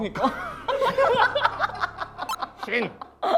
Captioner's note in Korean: 푸흡